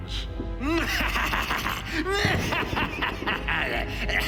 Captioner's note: laughs evilly; thunder rumbles